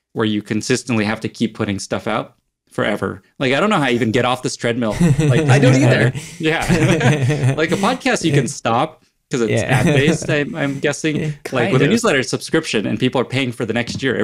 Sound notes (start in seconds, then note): 4.9 all laugh